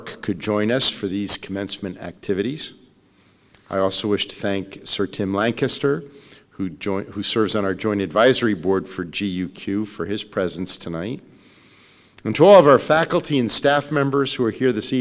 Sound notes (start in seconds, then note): none